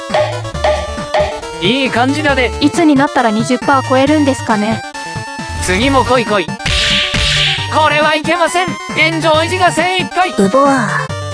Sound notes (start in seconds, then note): 0.0 sound effect of something popping out; 6.6 punch sound effect